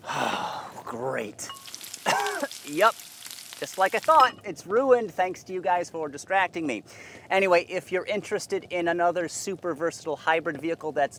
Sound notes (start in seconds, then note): 0.0 sighs; 1.9 coughs